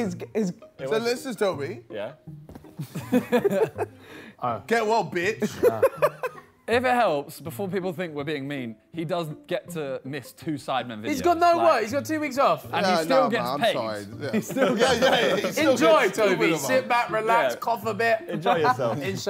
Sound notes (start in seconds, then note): 5.6 laughing